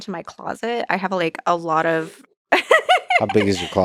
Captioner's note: laughs